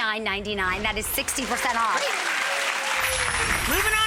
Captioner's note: audience applauds